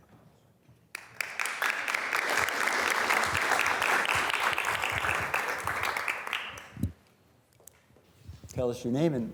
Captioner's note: students applauding